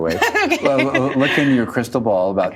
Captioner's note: laughing